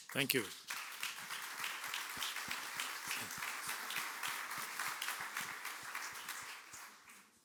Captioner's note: applause